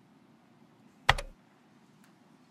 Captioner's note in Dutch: klik